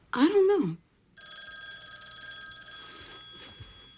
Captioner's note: telephone ringing